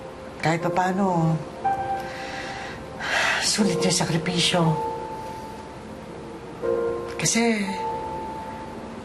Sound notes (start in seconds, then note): 2.0 breathes deeply